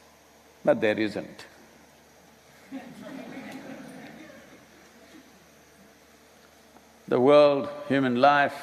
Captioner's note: laughter